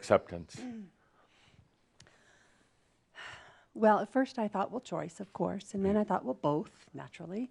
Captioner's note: sighs